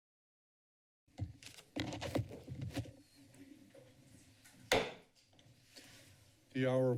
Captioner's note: silence; shuffling